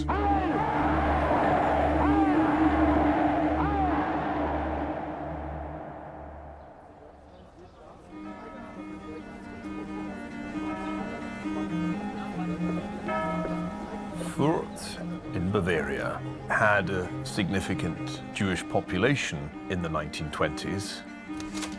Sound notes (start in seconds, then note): 8.2 church bells ringing